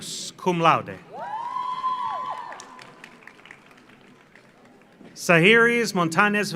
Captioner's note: audience cheers; audience applauds